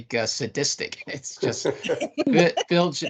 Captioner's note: laughing